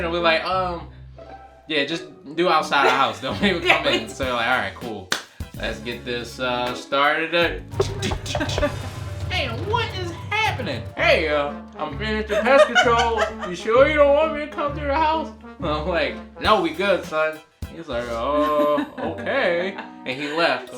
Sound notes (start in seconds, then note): 7.8 knocking